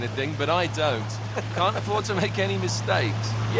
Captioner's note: laughs